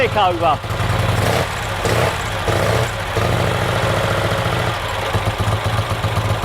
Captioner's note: engine revving repeatedly